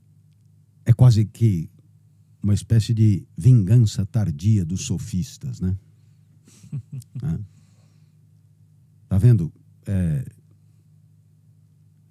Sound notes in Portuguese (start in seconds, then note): 6.5 risos